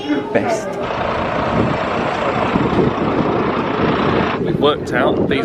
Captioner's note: bus engine rumbling